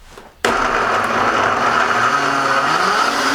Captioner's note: whirring